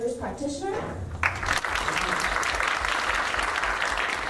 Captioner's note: applause